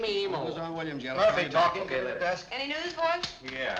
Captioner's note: chattering